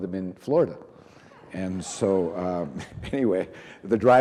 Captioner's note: reverend and audience laughing